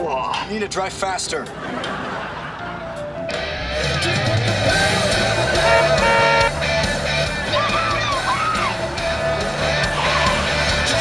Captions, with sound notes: You need to drive faster. [soft music playing] [rock music playing] [honking] Get outta the way! [rock music playing]